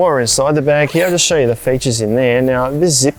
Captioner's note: zipper undoes